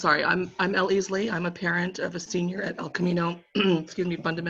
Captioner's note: coughing